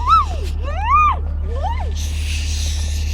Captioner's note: squealing